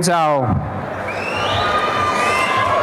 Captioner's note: applause and cheering